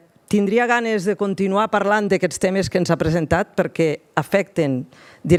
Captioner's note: speaks in foreign language